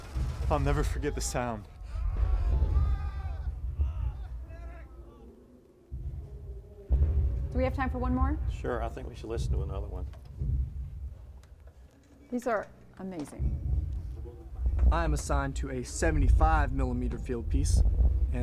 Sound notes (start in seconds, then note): 0.8 soldiers crying